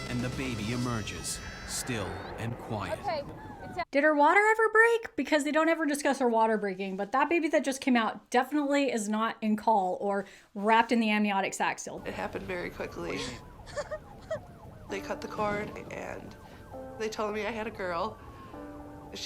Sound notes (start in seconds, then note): 13.6 sobbing